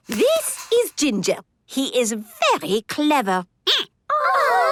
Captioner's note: squeaking